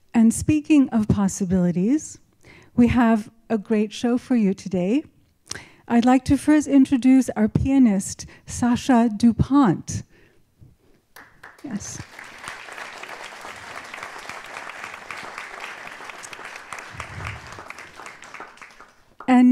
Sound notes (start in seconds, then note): 14.5 applause